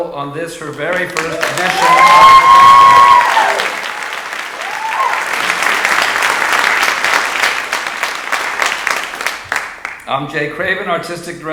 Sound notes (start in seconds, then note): 2.7 audience applauding